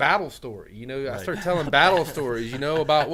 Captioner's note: men laughing